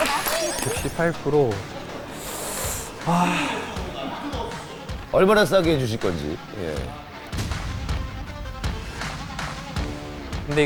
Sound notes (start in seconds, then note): 3.0 sigh